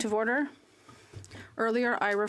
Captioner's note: speaking French